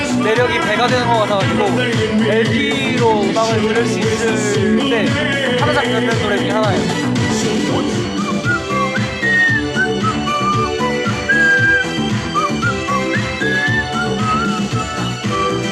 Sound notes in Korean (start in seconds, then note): 7.7 휘파람 퍼포먼스